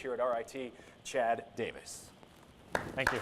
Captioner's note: applause